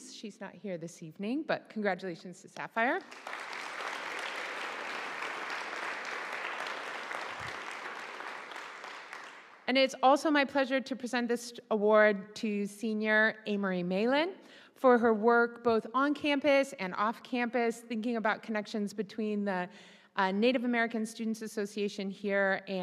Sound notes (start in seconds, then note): 3.0 audience applauding